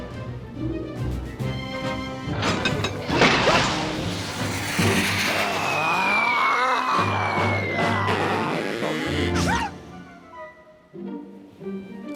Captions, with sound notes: (gears clank) AAH! AARRRGH! (rope creaks) WHOO!